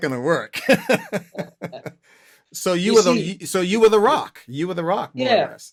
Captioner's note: laughter